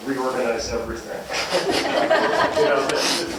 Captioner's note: laughter